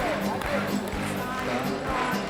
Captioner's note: Applauso